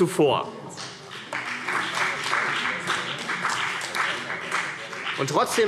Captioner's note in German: Beifall CDU und BÜNDNIS 90/DIE GRÜNEN